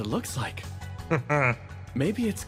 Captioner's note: laugh